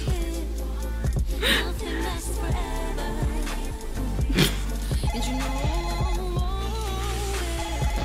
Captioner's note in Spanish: Suena el telefonillo de la casa sin parar